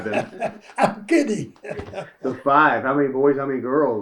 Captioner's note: laughs